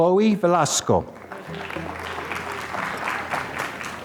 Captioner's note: applause